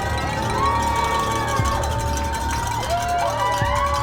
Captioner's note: group chattering; bells clanging; group cheers